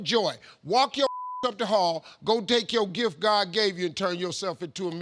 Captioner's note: beep